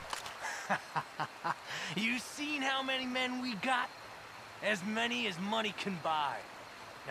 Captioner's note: laughs